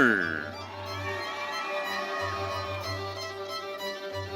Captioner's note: audience cheering